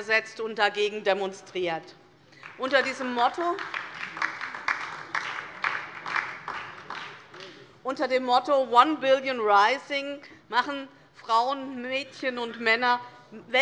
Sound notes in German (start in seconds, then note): 2.3 Beifall DIE LINKE und vereinzelt SPD